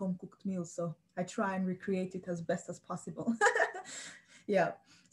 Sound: laughs

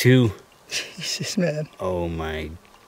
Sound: giggling

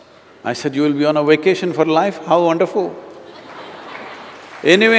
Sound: laughter

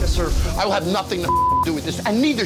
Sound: beep

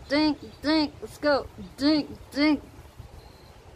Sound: flatly

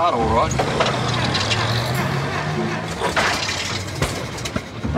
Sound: starter motor whirrs

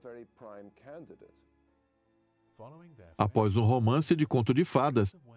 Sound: voiceover

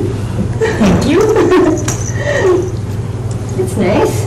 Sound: Merce giggles

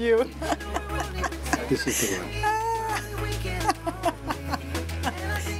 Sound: laughs

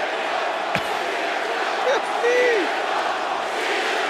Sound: applause; laugh

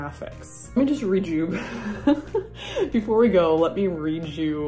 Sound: chuckles

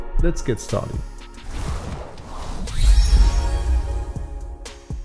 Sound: logo whooshing

